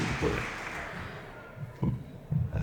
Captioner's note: laughter, applause